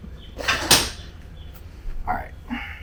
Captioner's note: sealant gun clanking